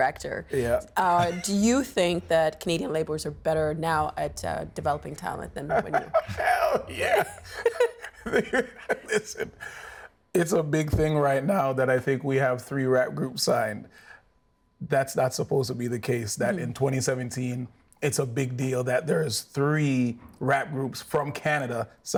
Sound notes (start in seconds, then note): 5.6 laughing